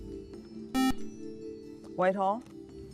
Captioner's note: beep